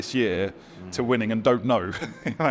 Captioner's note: laughs